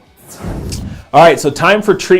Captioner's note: whoosh